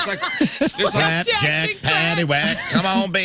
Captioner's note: laughing